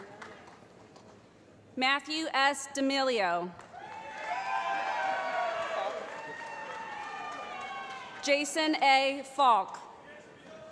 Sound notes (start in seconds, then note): 3.7 cheering